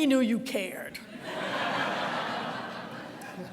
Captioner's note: audience laughter